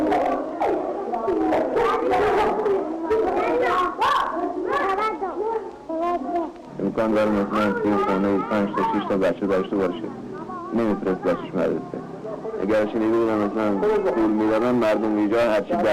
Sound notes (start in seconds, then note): 0.0 children laughing; 7.0 man speaking foreign language